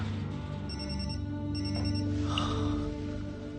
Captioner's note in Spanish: Suena el celular